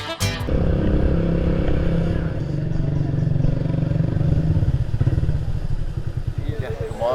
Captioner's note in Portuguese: Motor de motocicleta